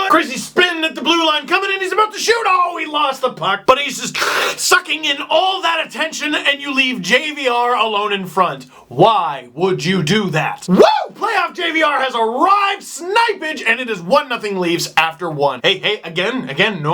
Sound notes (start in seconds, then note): 4.2 slurp